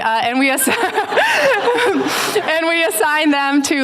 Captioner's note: laughter